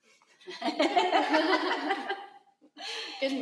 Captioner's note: laughter